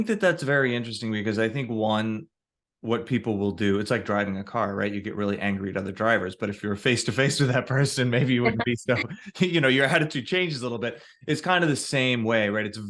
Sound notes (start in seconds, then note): 7.8 chuckles